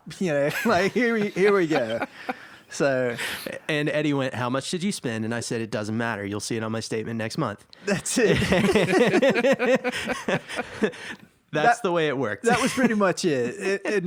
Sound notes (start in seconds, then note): 2.7 laughs; 7.9 laugh